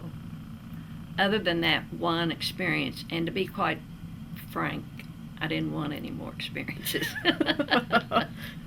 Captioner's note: laughter